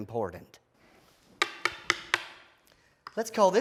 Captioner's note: knocking